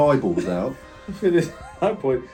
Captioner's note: laughs